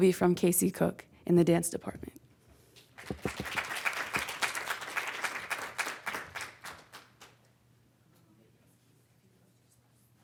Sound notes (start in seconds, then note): 2.9 audience clapping